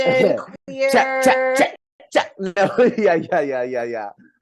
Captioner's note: laughs